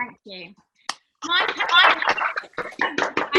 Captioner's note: applause